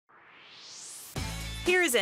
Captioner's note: swoosh